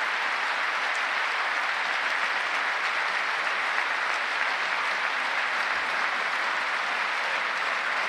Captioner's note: applause